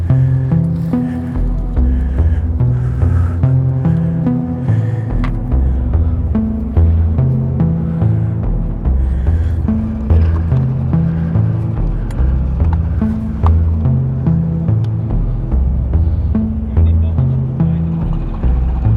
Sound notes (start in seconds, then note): 10.5 screws clacking; 13.1 suspenseful music continues